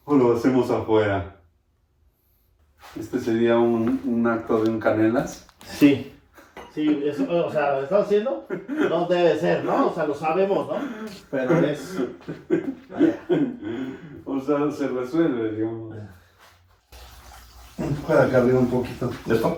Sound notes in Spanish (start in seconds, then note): 13.6 risas